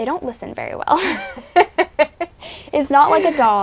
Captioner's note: laughing